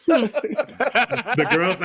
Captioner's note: laughing